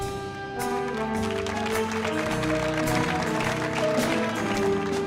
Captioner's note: audience applauding